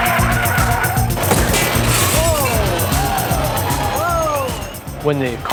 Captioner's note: crashing